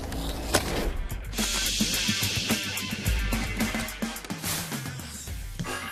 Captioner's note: case contents hissing